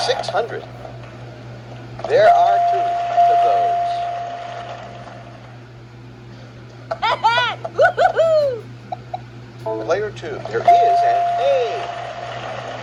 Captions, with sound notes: $600. There are two of those. (Maria cheers) Player 2- There is an A.